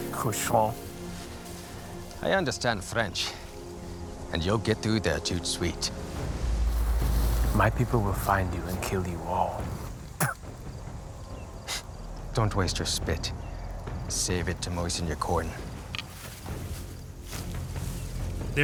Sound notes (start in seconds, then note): 0.1 in french; 6.0 in french; 10.2 spits